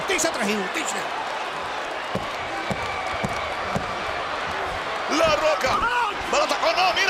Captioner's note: applause